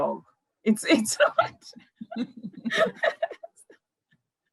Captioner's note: both laughing